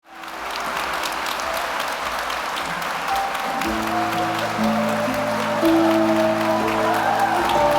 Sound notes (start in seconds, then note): 0.0 audience applauding; 0.2 gentle music